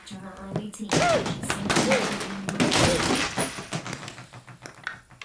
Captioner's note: TV smashing, news cuts out